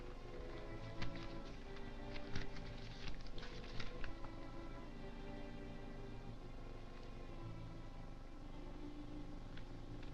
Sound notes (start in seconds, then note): 0.3 papers rustling